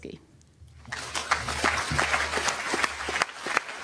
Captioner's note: applause